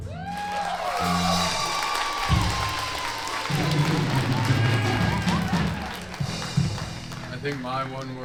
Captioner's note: applause